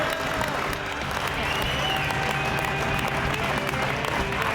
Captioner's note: cheers and applause